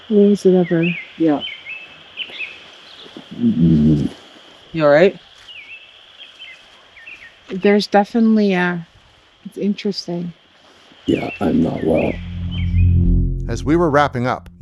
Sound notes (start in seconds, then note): 3.4 groans; 12.0 pensive music